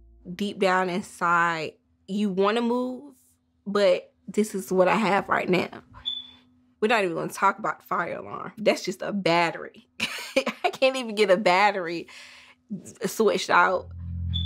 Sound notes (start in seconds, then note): 6.0 smoke detector chirping; 10.0 laughs